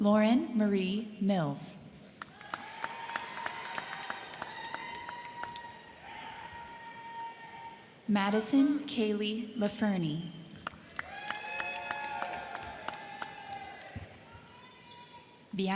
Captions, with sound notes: Lauren Marie Mills. (crowd cheering) (crowd clapping) Madison Kaylee Lafurney. (crowd cheering) (crowd clapping)